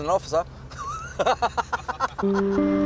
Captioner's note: laughs